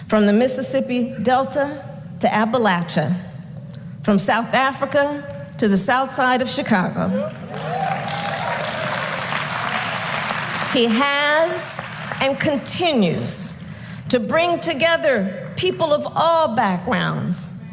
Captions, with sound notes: from the Mississippi Delta to Appalachia; from South Africa to the South Side of Chicago. (Applause.) He has and continues to bring together people of all backgrounds: